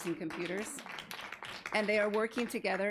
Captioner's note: audience applauding